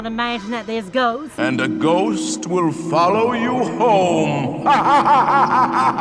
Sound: sinister voice; evil laughter

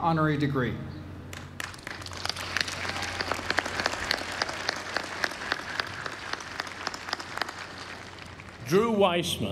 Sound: applause

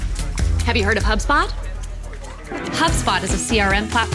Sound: office workers chattering

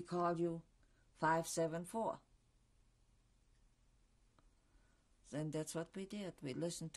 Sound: pauses for 3 seconds

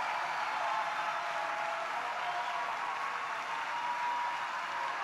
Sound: congregation applauds

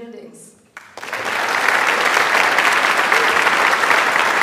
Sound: audience applauds

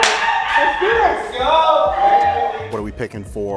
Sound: cheering

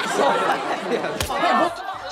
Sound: chuckles

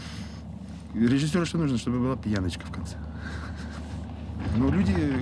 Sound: laughs

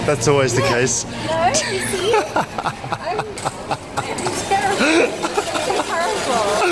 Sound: laughs

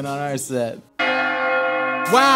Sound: bells Ringing

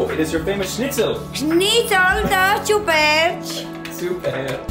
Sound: speaking Romanian

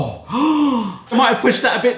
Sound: gasps

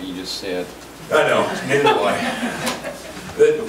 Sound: group laughs

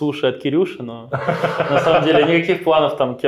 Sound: laughs

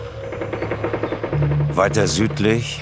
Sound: Schüsse

